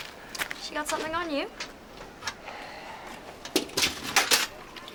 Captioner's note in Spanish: Slade suspira